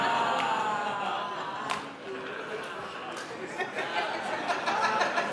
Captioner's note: laugh